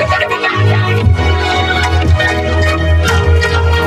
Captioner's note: shouting, groaning